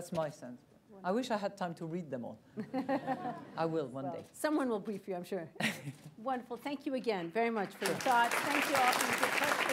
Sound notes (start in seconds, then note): 2.6 laughter; 7.5 applause